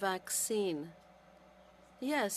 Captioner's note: speaking French